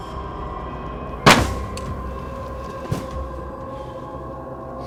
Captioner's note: gun fires